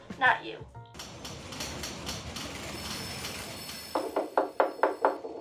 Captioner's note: busy office sounds